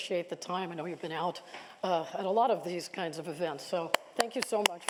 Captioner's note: applause